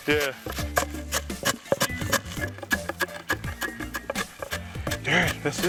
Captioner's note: sound of corn grinding